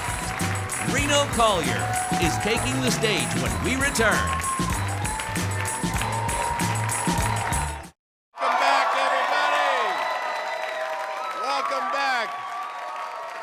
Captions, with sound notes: Reno Collier is taking the stage when we return. (energetic music) (audience applauding) - Welcome back everybody. Welcome back.